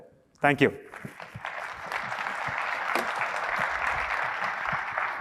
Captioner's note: applause